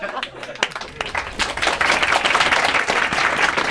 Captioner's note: applause